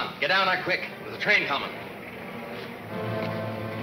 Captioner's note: train rumbling